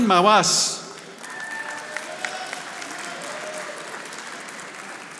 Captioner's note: audience applauding